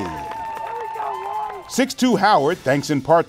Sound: cheers

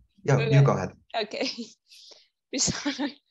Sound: laughs

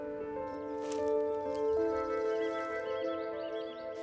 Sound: birds chirping

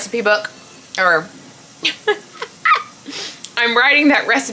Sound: laughs

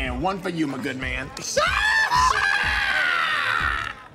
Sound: screams in agony

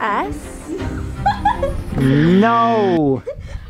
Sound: female Voice Laughs

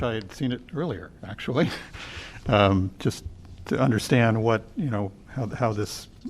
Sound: laughter

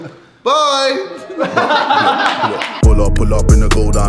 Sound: laughing

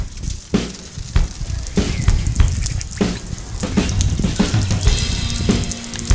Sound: splatter of rain

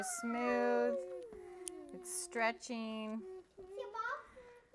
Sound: humming

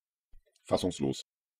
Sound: fast Pronunciation

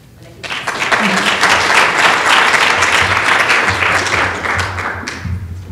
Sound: clapping

